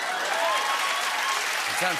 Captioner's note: cheers and applause